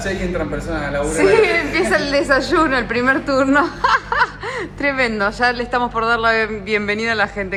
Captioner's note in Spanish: risas